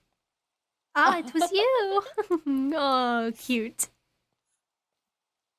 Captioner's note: DAMIEN laughs